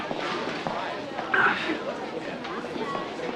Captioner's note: sighs